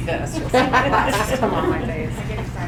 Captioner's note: audience laughing